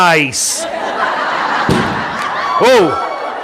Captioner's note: audience laughing